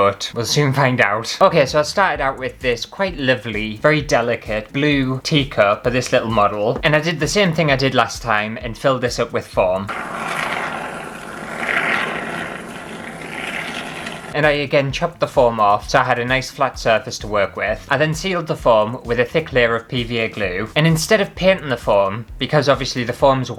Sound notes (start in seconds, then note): 9.8 airy Squity Foam Sounds